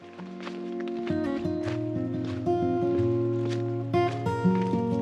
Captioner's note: sounds of foot crunching on leaves and rocks